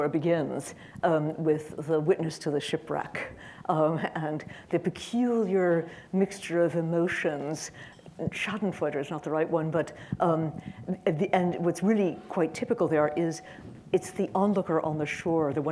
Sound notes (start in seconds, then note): none